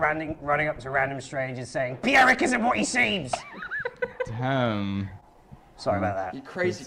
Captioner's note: laughing